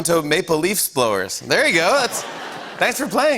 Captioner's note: laughter